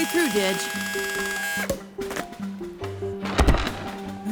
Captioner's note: drilling